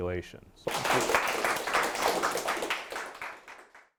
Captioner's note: applause